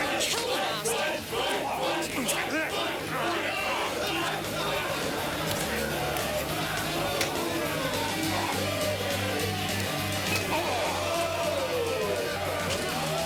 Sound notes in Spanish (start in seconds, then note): 1.8 Multidão; 4.0 Homens gemendo; 10.6 Multidão; 13.0 Multidão aplaudindo